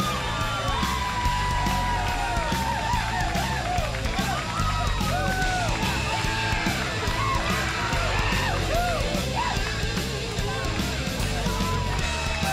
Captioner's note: crowd cheering